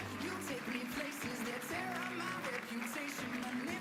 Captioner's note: applause